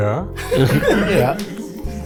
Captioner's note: group laughs